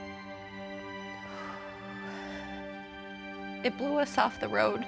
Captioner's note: deeply exhaling